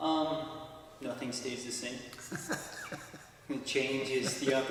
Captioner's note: laughs